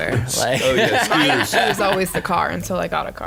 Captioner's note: laughing